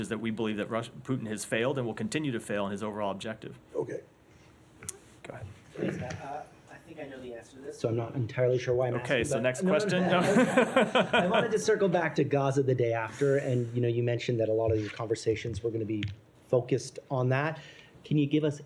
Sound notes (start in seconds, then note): 9.9 laughter